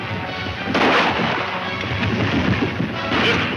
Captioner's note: upbeat music; gunshots